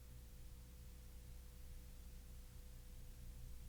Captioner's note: none